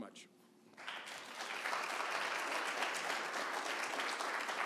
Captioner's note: audience applauds